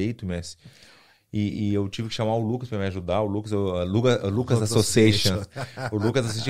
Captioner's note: both laugh